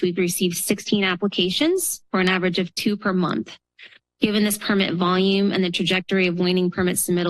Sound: none

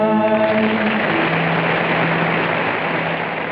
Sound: audience applauding

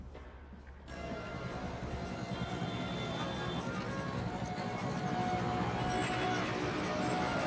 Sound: chattering; exotic music

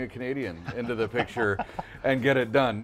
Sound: laughing

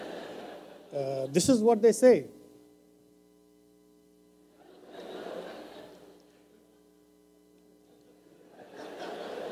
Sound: laughter; laughter

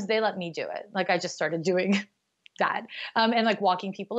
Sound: laughs

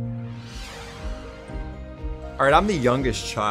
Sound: ambient upbeat music; whooshing

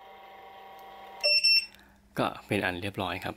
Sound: dis-armed sound

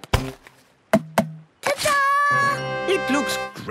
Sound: tapping

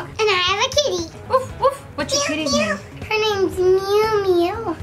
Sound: barking

